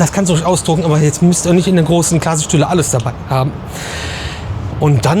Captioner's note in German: schnauben